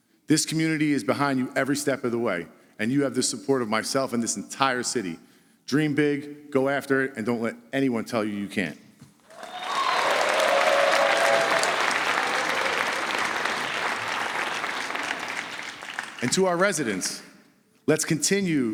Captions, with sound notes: This community is behind you every step of the way, and you have the support of myself and this entire city. Dream big, go after it, and don't let anyone tell you you can't. [APPLAUSE] And to our residents, let's continue